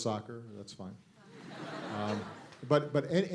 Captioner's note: laughter